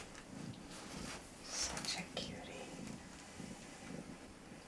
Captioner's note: whispering